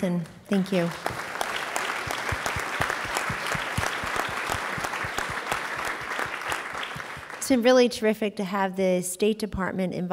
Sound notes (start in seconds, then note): 0.4 applause